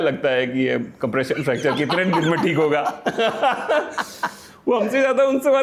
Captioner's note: laughter